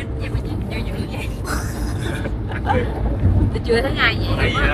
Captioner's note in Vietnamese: laugh